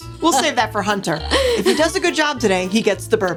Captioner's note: laughs